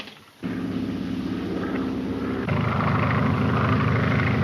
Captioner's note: plane engine roars